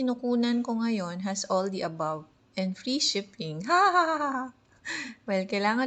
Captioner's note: hahaha-haha